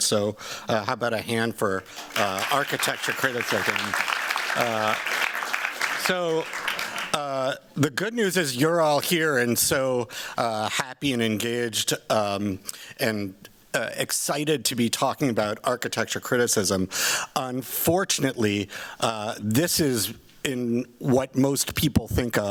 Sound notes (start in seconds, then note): 4.1 applause